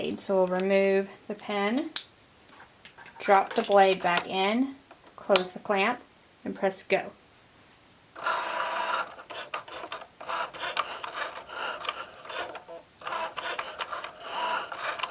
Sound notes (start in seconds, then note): 8.1 machine whirring